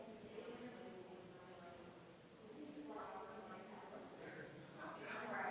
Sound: people chattering distantly continues

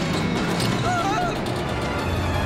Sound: screaming

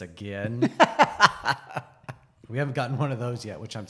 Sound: laughs

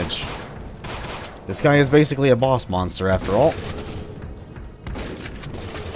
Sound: shotgun blasting

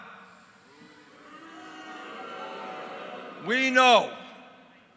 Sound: crowd booing

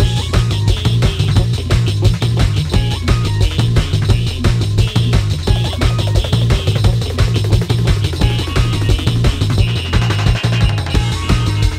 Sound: sirens Dying

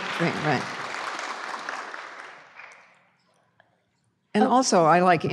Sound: applause

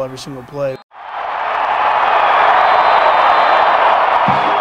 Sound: cheering

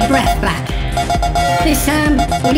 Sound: drone bleeps

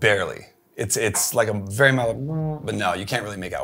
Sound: makes humming sound

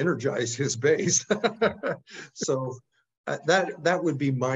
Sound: laugh

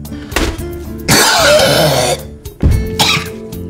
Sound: cough

